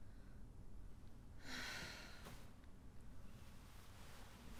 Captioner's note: sighs